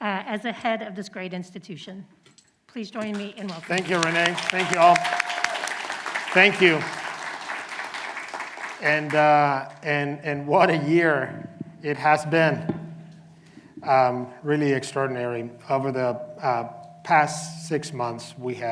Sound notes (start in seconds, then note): 5.9 clapping